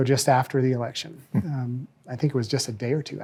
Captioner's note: Mark chuckles